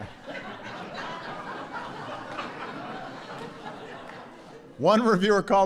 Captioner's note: laughter